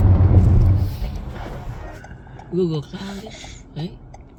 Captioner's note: turn signal clicking back and forth